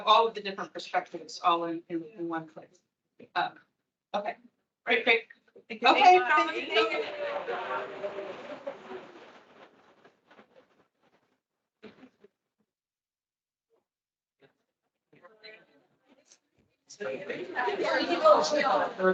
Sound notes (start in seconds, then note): 8.8 attendees chattering; 10.3 static crackling; 16.9 attendees chattering